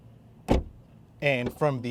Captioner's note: door slams